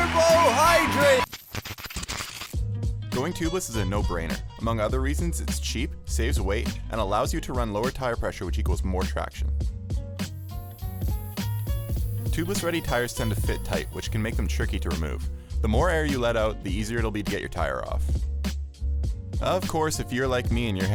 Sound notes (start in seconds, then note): 0.0 static